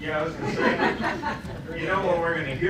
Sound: laughter

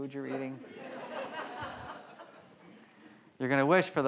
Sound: audience laughs

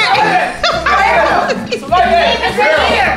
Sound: laughs; friends chattering

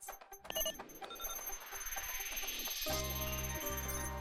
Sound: beeping; whooshing

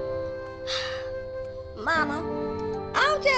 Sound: sighs

